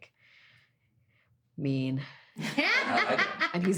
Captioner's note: all laughing